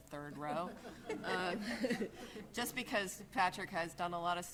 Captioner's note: laughing